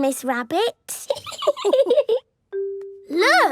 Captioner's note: laughing